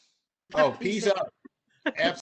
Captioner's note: laughter